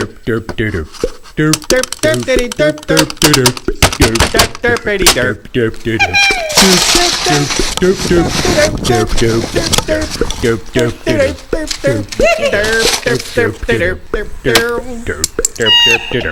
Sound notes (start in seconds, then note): 1.4 clicky fingers; 3.0 triggered clicky fingers; 6.4 snow noices; 8.0 more snow noices; 15.0 plastic noices